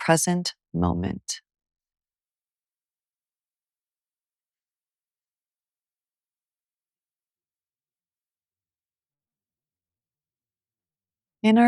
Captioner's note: silence